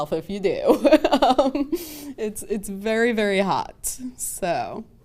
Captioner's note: laughs